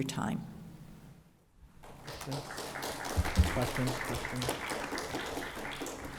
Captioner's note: applause